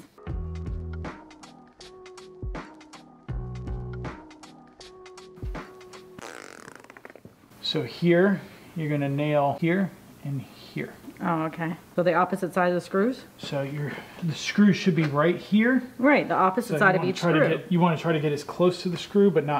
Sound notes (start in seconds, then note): 0.0 mellow music; 6.0 pffft